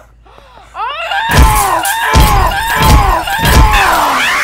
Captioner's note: Grunting